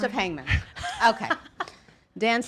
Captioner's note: laughs